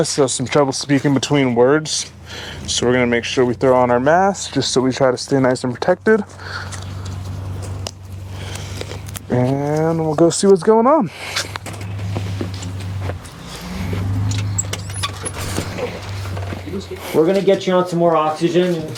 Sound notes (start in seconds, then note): 11.1 engine rumbling at distance; 13.4 door hinge creaking